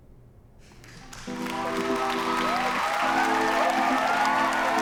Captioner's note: cheering, applauding